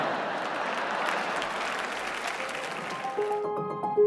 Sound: audience laughing; audience clapping; upbeat piano jingle

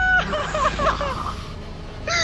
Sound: heavy breathing of regret

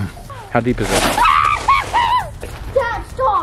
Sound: screaming

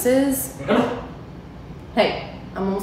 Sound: Gus growling

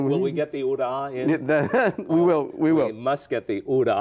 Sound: chuckles

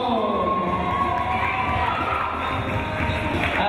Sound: cheering

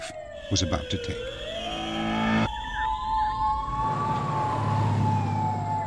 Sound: siren

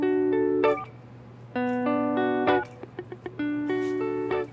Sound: phone beeps

